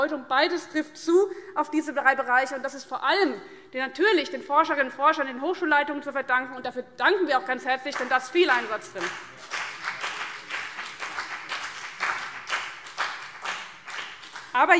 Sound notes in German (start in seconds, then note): 8.4 Beifall BÜNDNIS 90/DIE GRÜNEN und vereinzelt CDU